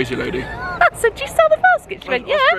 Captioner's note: laughs